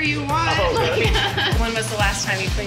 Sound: laughter

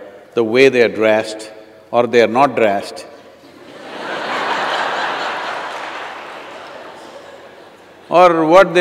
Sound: laughter

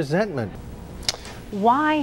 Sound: man takes a breath

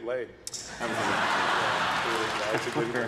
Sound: audience laughs; chuckles

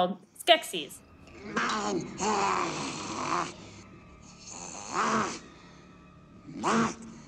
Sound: Skeksis making awful noises

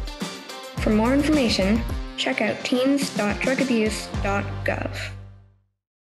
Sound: female voice over

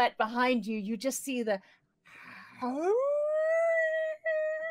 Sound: howling

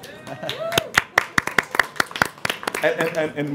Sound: applause

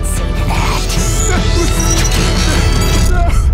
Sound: whimpering

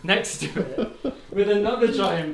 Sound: camera Operator laughs

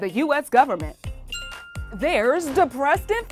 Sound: bell chime

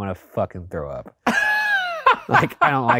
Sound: laughing

